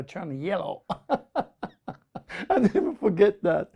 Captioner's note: laughs